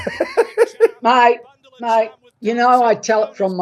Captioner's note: laughs